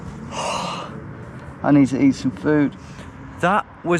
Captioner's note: exhales